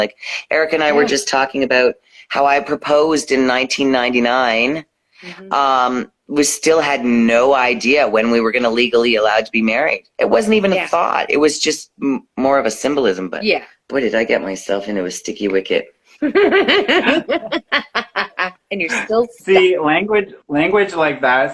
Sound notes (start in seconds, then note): 16.2 laughing